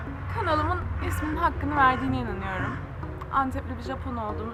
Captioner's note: crow on the background: gak gak gak